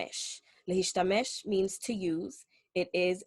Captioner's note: speaking Hebrew